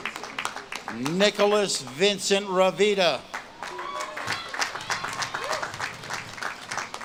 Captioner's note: audience claps and cheers